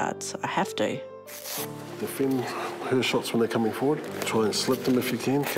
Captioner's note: velcro rips